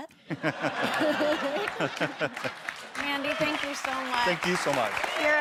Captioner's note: audience laughs and applauds